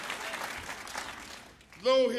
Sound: applause

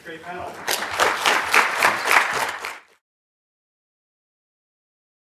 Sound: applause

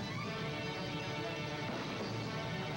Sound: gunshot

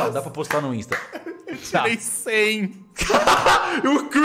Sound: laughing

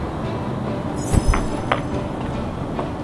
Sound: magic poof

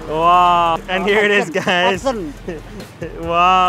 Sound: chuckles; laughing; speaking in foreign language

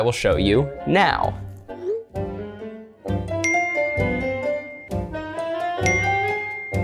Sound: silly music; chimes

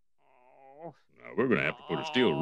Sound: Smithers groaning

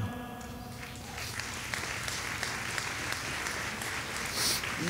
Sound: audience applauding

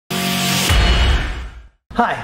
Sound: logo booms

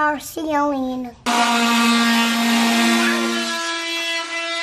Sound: saw buzzing

